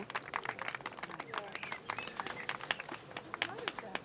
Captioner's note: music ends, people clapping